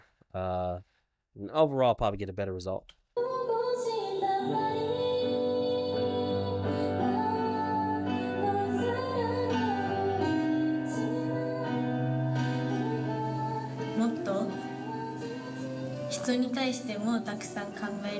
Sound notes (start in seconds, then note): 7.3 singing in foreign language; 7.3 speaking in foreign language